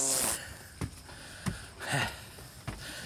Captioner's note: catching breath